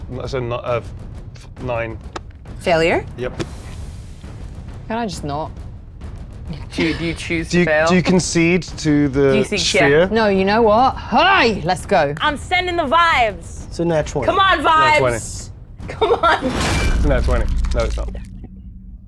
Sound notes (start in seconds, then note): 15.9 laughs